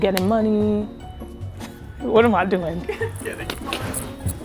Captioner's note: laughs